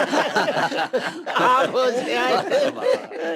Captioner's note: haha